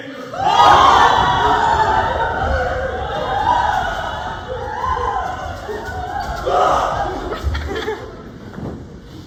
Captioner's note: assorted raucous screaming